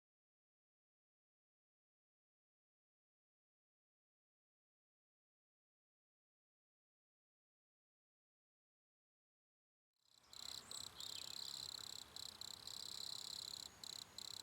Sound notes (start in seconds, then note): 10.1 crickets chirping